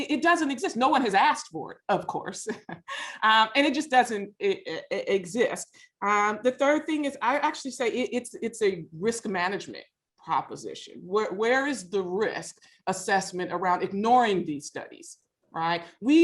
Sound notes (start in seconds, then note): 2.2 laughs